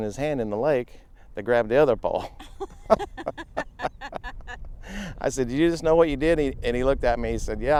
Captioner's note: laughing